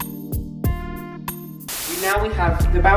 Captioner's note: static